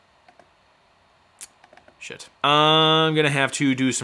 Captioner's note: touchpad clicking